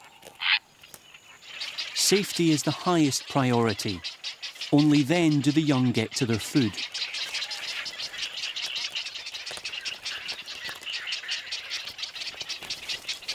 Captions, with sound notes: Safety is the highest priority. Only then do the young get to their food. [chicks chattering]